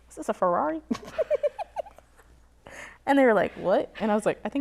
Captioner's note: laughs